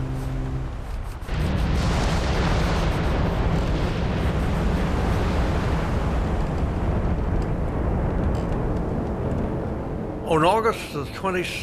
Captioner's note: explosion